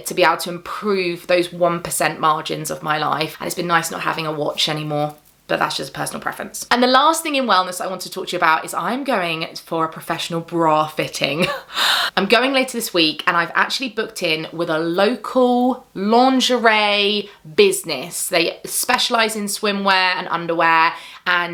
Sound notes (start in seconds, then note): 11.4 chuckles